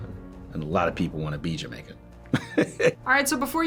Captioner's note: chuckles